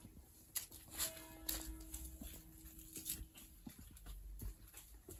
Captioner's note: chuch bell: 04:00